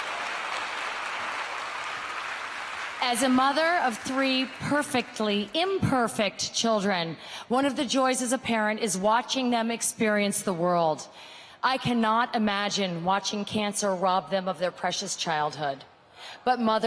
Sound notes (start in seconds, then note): 5.5 applause